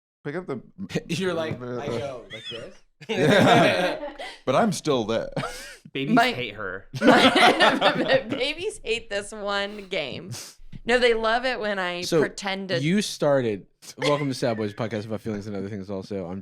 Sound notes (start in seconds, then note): 3.0 all laugh; 6.9 laughs